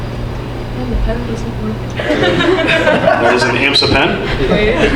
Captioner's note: laughs